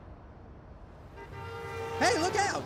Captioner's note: horn honking